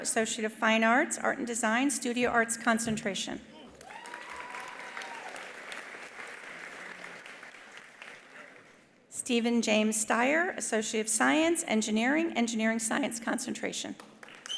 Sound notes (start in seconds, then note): 3.6 attendees applauding; 3.7 attendees cheering; 14.1 attendees applauding; 14.4 attendee whistling